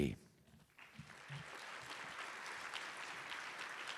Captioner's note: applause